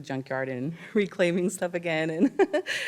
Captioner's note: laughs